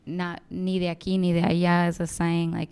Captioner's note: speaking in foreign language